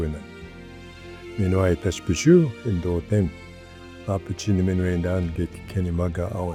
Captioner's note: speaking in Ojibwe language